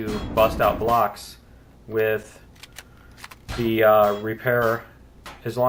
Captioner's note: drilling; pinging